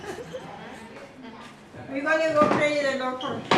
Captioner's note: Spanish